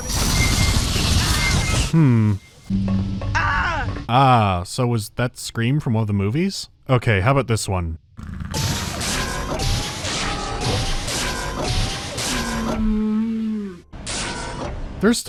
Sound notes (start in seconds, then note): 8.6 mechanical wizzing